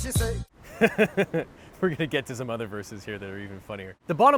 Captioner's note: laughs